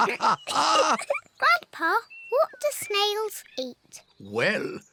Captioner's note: both laugh; laughs